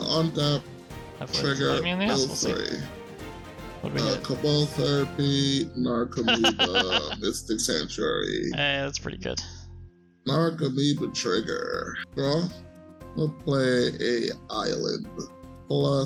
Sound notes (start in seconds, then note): 6.1 laughs